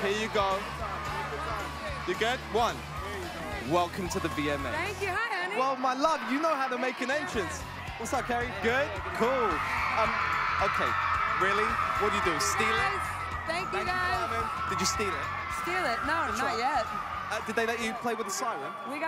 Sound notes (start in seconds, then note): 9.7 applause